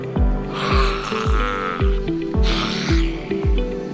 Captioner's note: hisses